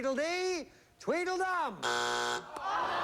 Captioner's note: buzzer